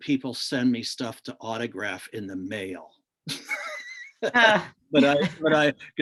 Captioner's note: laughs